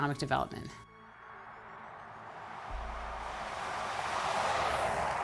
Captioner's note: car engines roaring